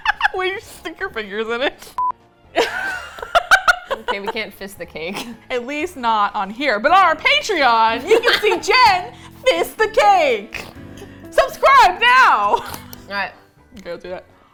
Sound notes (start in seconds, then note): 2.5 both laugh; 7.0 laughs